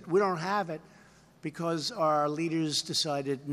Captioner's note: none